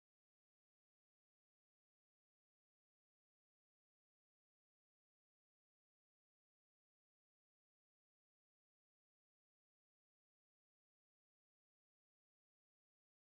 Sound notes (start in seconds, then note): none